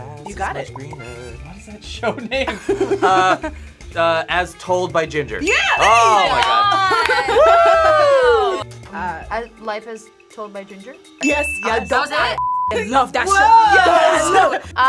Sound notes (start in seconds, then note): 2.2 React laughs